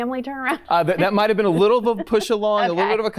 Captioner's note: laughs